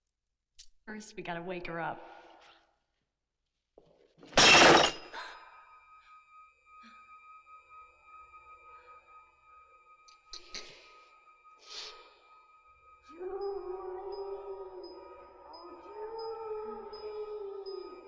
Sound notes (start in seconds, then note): 4.3 glass shattering; 4.4 Julie gasping